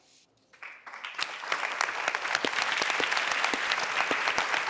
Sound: audience applause

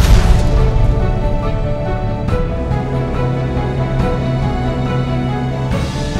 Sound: airplanes flying overhead

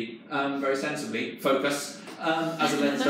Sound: laughing

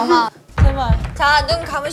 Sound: heartbeat

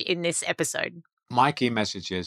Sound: chuckles

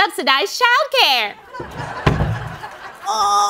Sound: laughter

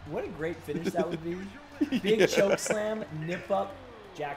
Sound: laugh

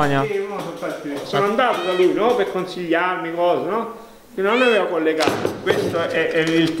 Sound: cat meows

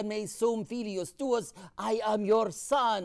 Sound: speaking in foreign language

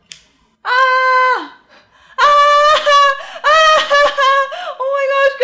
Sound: yelling and laughing

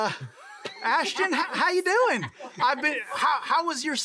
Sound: laughing

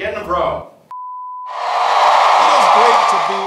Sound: cheering

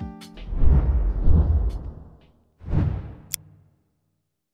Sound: air whooshing

